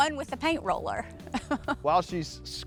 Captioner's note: chuckles